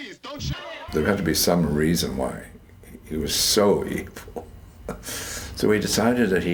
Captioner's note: laughs